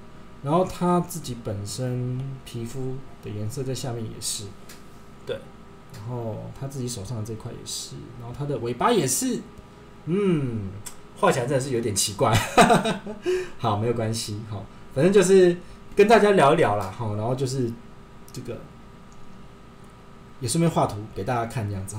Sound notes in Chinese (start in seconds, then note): 12.3 笑聲